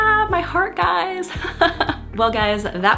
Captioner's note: laughs